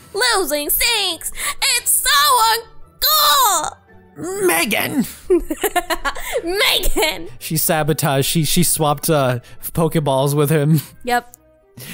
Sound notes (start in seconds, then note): 5.1 laughing